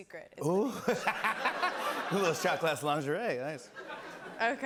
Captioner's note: laughs